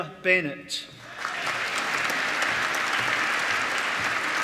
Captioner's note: applause